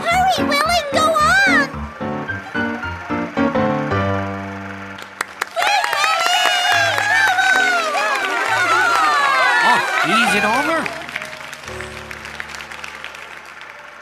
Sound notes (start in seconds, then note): 5.2 audience applauding; 8.6 audience murmuring